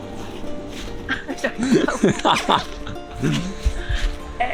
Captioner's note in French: Rire